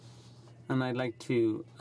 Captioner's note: speaking in french